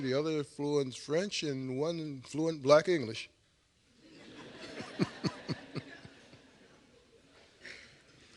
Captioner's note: laughter